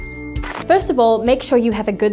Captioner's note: whoosh; bell dings; static crackles